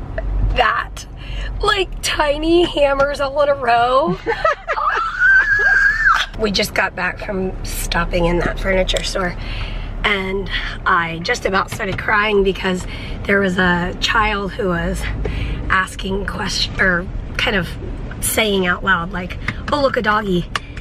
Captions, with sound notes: That, like, tiny hammers all in a row! [excited screech] We just got back from stopping in that furniture store, and I just about started crying because there was a child who was asking questions, er, kind of saying out loud, like, oh look, a doggy.